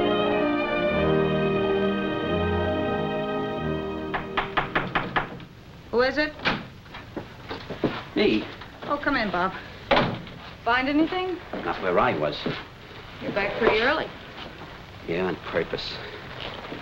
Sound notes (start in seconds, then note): 4.1 knocking